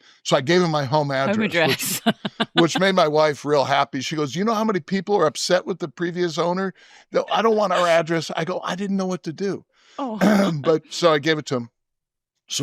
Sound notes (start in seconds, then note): 1.2 chuckles; 10.2 clears throat